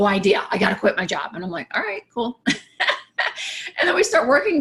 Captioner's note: laughs